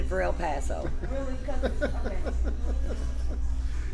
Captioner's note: laughs